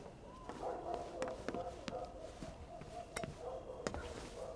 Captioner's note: dogs barking